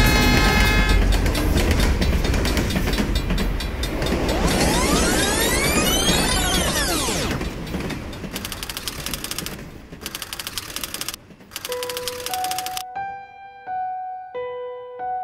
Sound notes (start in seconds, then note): 0.0 train horn blowing; 0.2 train rails clanking; 4.1 audio tape rewinding; 8.6 typewrite clicking; 11.7 eerie piano music